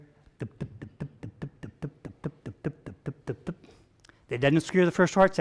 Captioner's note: vocalizing rapid thumping